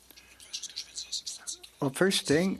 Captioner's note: speaking French